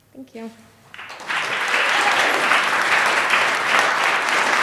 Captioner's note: applause